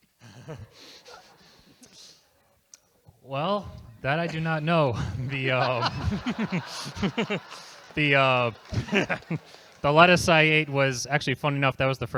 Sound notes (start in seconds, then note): 0.3 laughter; 7.2 laughs